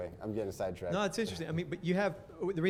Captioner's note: voiceover